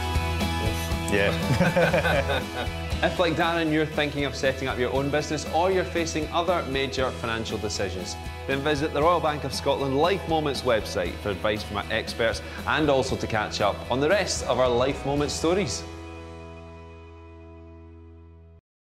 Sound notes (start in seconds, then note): 1.4 laughter